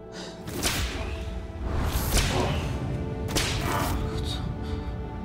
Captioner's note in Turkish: Kırbaç sesi